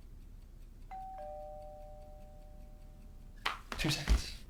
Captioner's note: doorbell ringing